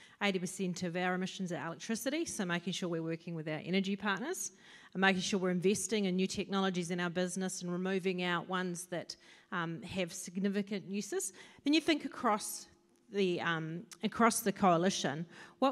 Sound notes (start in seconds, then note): none